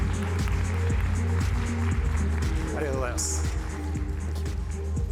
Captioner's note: applause